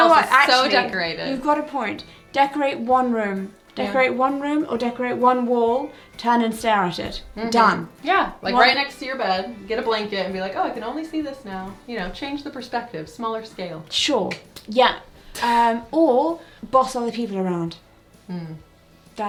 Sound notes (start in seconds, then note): 15.1 laughing